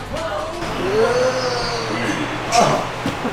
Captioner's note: grumbling sounds